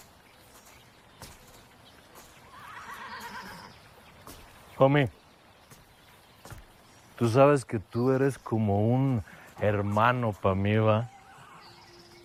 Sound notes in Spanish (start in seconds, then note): 2.4 Relinchos